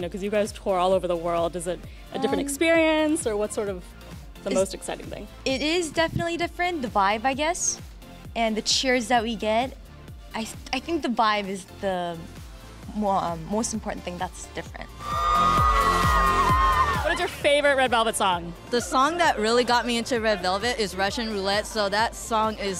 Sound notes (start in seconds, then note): 15.0 cheering